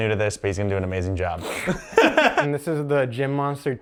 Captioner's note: brother laughs